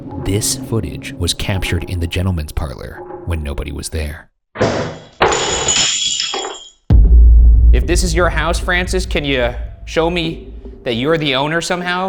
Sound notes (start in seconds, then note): 4.6 objects clatter; 4.6 glass shatters